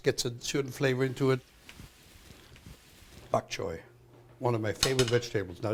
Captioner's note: sizzling